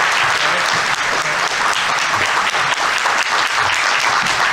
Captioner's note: audience applauding; people chattering